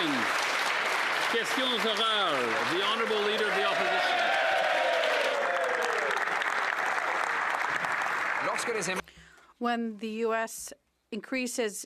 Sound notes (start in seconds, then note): 5.6 applause